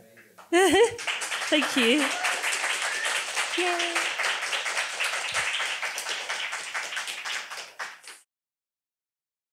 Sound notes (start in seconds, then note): 0.5 laughs; 2.3 audience clapping